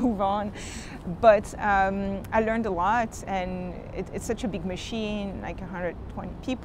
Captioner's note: chuckles